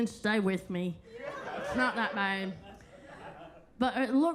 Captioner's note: attendees laughing